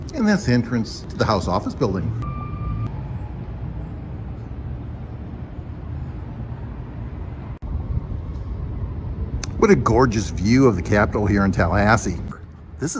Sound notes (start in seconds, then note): 1.0 siren wailing; 2.4 car engine humming